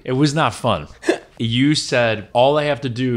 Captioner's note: chuckles